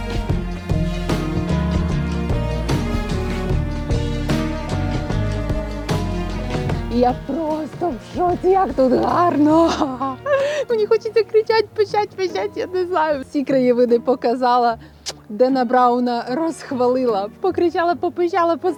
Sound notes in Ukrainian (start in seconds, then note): 8.7 сміх